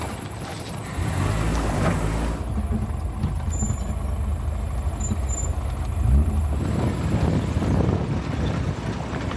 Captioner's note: engine revving